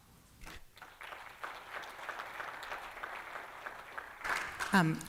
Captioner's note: applause